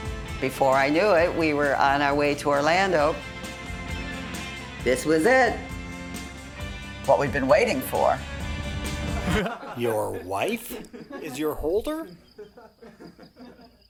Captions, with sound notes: Before I knew it, we were on our way to Orlando. This was it. What we'd been waiting for. [Onlookers laughing] Your wife is your holder?